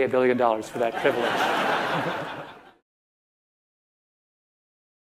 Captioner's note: audience laughter